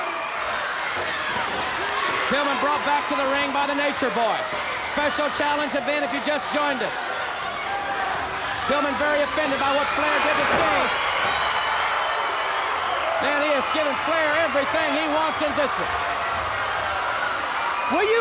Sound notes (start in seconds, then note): 1.0 body thudding; 1.0 crowd clamoring